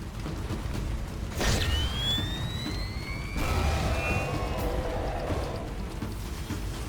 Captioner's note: exploding